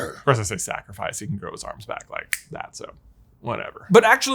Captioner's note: snap